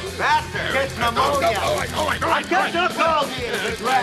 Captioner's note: all chattering